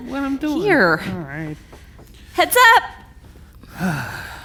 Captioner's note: sighs